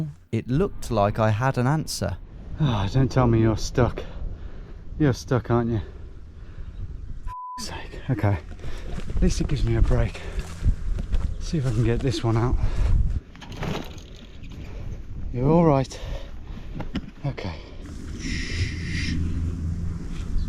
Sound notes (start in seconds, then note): 7.2 beep